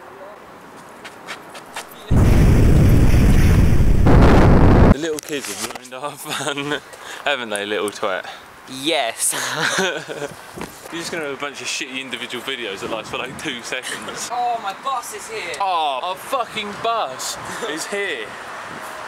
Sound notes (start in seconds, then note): 2.0 big explosion; 9.3 no self esteem laughter